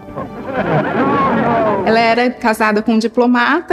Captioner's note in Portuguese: Risadas